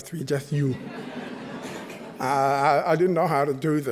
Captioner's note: chuckling